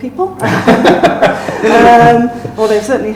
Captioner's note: laughing